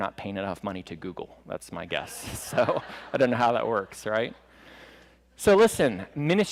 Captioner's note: laughter